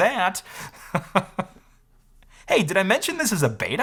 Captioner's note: chuckles